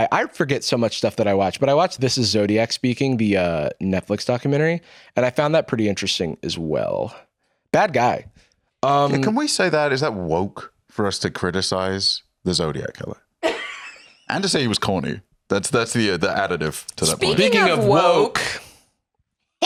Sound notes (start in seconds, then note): 13.4 laughs